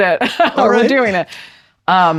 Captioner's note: laughs